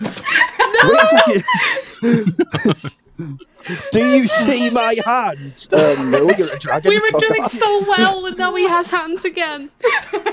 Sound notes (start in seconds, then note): 0.1 laughter; 5.7 laughter; 9.8 laughter